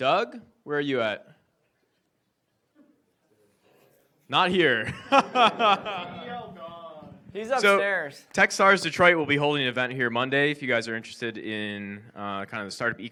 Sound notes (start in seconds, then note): 4.8 laughs